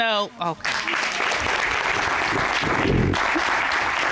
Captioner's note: applause